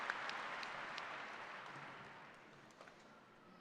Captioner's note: applause